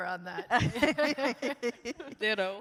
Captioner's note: both laugh